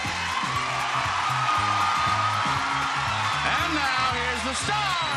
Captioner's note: audience applauding; upbeat music